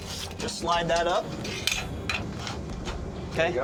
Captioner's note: clanging sound